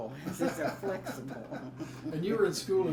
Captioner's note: both laugh